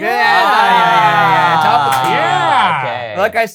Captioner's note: exclaiming